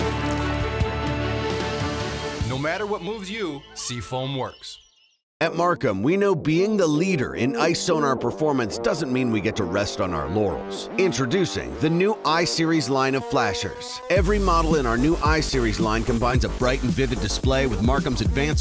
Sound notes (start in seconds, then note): 3.0 voiceover